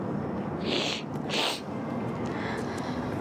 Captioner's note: sniffling